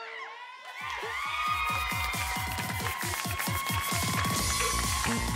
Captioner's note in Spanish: Gritos y exclamaciones; Palmadas al compás